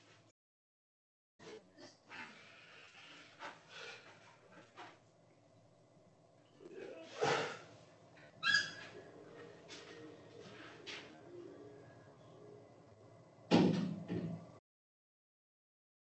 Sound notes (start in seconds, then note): 8.4 door creaking; 13.5 door closing